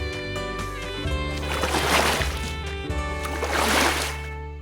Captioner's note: splash...Splash